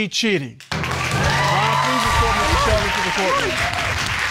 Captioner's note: audience cheering